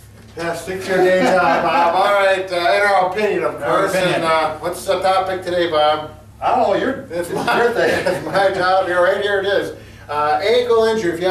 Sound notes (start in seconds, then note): 0.8 laughs